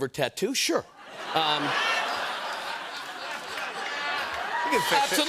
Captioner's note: laughter